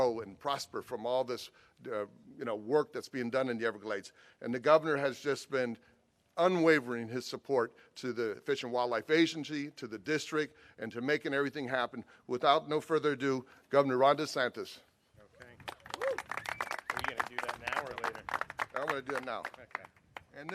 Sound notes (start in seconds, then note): 15.4 clapping